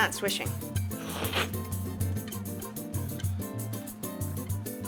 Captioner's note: slurping